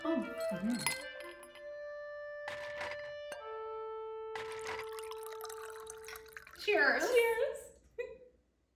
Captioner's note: ice and glass clicking, liquid pouring sound